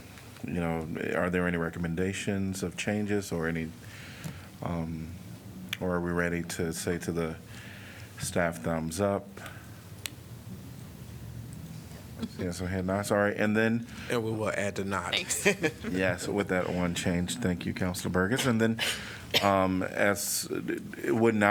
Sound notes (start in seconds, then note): 15.2 laughter